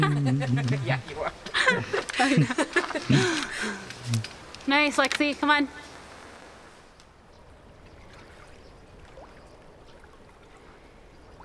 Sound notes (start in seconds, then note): 7.6 water splashes